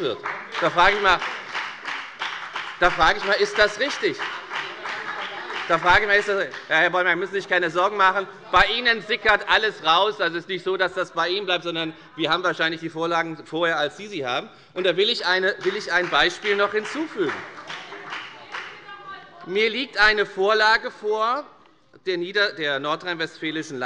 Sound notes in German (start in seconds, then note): 14.8 Beifall bei der FDP